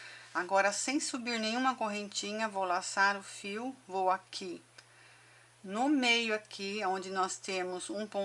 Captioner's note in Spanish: en español